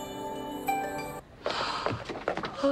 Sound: gasp

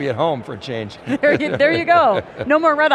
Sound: chuckles

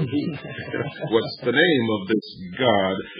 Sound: laughs

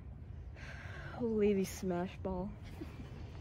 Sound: sigh

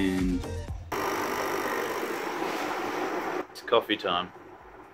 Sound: coffee machine whirs

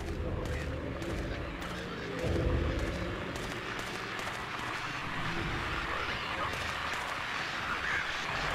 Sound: radio static noise builds

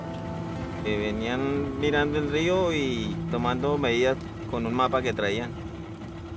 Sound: speaking in foreign language

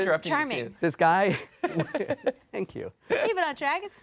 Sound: laughing

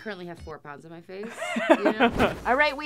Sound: laughter

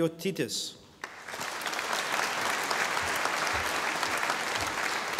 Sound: audience applauding

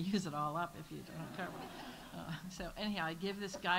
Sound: audience laughs

